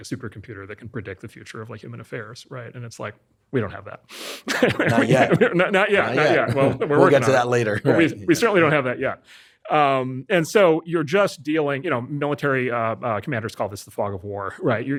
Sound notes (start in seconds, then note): 4.4 laughs